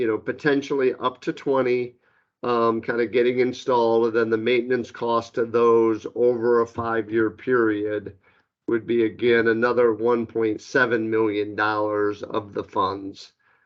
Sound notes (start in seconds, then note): none